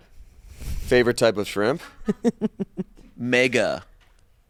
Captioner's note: laughs